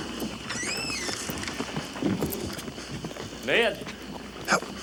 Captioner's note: horse neighs; door creaks